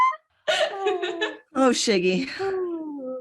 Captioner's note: laughter